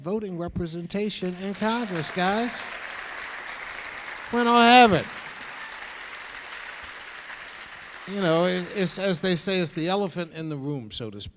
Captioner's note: applause